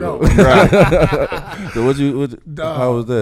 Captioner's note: laughing